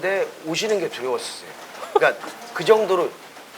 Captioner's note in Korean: 웃음